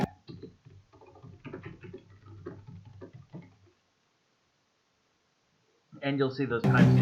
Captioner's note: typing continues